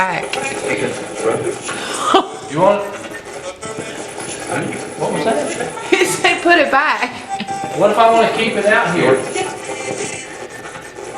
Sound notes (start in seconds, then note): 0.2 chuckles; 0.2 radio voice; 3.8 radio voice; 6.5 giggling